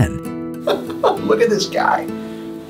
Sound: laughs

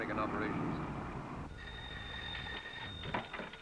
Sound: phone ringing

